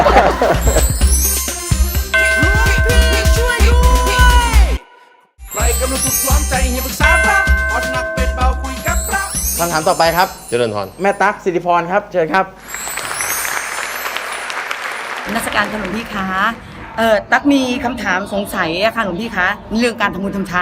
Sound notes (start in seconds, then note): 12.7 clapping